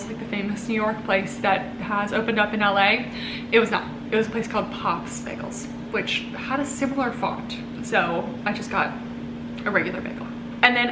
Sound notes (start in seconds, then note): none